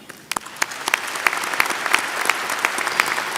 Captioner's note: applause